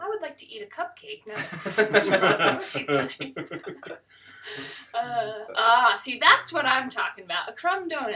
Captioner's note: laughter